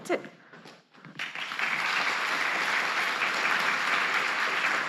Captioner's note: applause